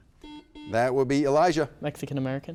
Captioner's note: buzzer beeps